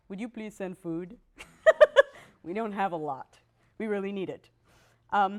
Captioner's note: laughs